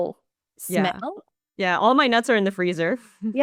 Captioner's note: laughs